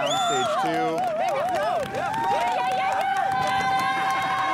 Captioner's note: all cheering